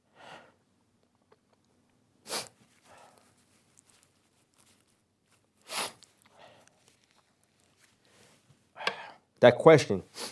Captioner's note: pause